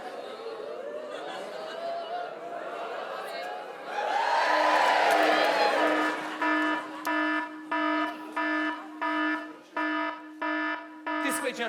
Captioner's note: siren blarin